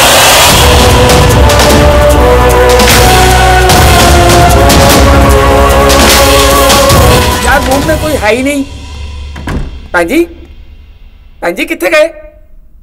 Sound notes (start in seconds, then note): 9.3 Door closes; 9.3 Door opens